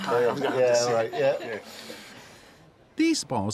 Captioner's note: laughs